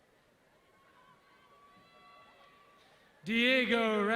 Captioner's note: audience cheering